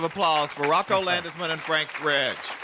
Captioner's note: applause